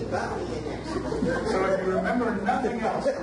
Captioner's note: audience laughs